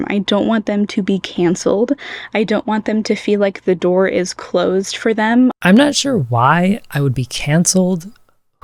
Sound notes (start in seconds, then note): 1.6 inhale